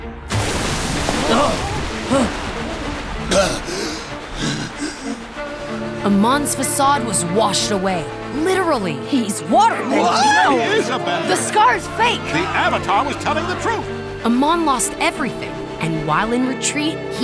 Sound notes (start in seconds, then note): 0.1 grunting; 3.3 gasping